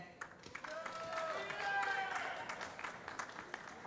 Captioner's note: voiceover; applause